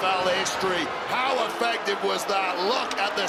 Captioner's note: crowd boos